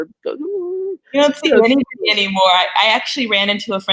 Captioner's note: audio unstable